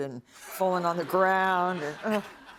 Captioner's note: laughter